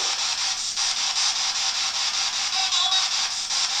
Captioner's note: static